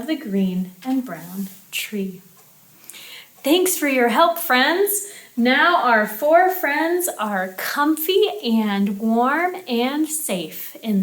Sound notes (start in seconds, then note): none